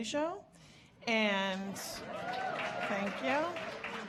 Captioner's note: audience cheering